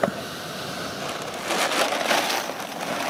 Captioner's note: rustling